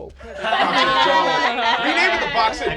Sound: laughing

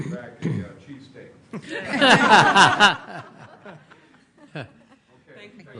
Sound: laughter

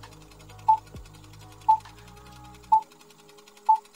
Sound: projector whirring; beeping

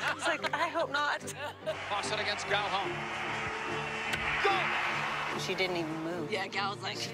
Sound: tv announcer

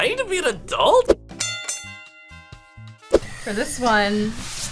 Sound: bell dinging

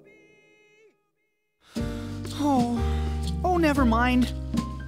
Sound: sighing

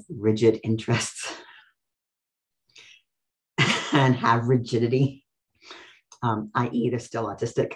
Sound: laughs

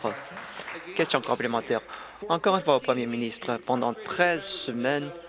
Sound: applause

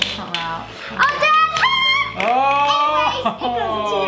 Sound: shouting

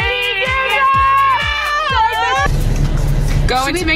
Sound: group yelling

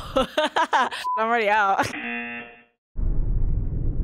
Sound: laughing; buzzer

